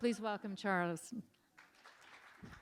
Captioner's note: applause